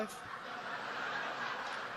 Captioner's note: audience laughs